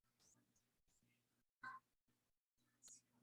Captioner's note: none